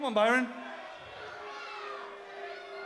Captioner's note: crowd chatter